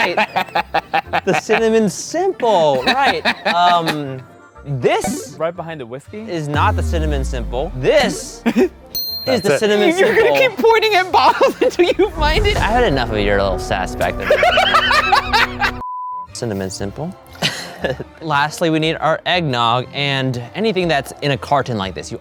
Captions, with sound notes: You are right. The cinnamon simple, right. This- - Right behind the whiskey. - Is not the cinnamon simple. This. (light ding) - That's it. - Is the cinnamon simple. - Are you gonna keep pointing at bottles until you find it? - I've had enough of your little sass back there. (everyone laughing) (beep) - Cinnamon simple. Lastly, we need our eggnog and anything that's in a carton like this,